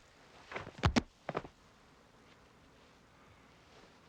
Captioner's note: body thuds